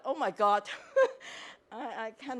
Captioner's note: chuckles